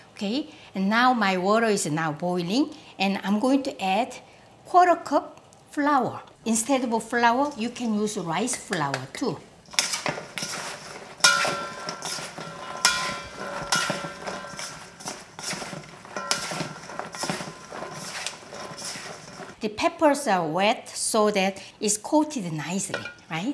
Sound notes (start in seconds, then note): 10.1 spoon clanking